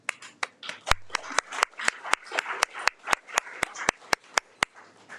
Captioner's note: audience applauding